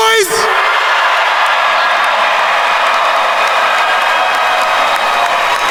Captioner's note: attendees cheering and applauding